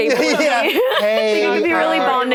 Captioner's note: laughs